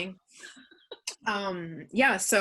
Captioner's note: chuckles